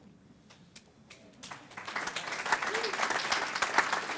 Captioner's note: applause